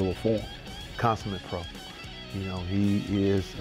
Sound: voiceover

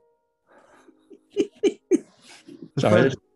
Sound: giggling

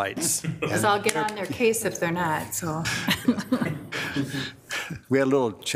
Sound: laughs

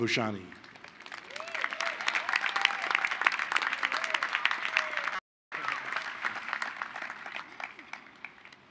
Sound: applause

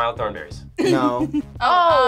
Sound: React laughs

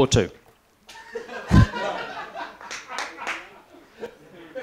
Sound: laughter

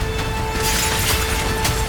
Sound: glass shatters

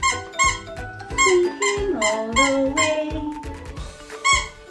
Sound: squeaking; squeaking

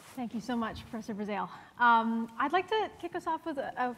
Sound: none

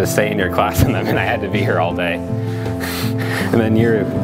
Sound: laughs

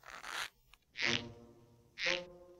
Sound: soft creaking; creaking

